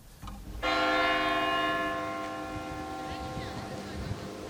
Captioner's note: bell tolls